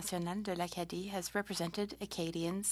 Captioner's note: speaking French